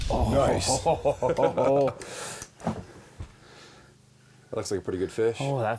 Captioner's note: chuckles